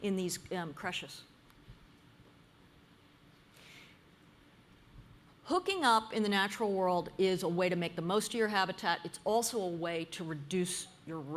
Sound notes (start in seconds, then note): 1.0 pause